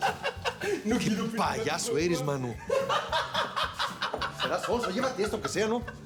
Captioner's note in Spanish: Risas